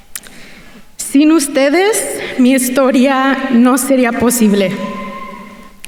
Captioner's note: speaking in Spanish